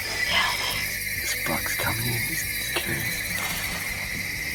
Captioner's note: whispering